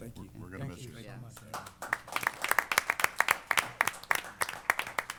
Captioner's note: applause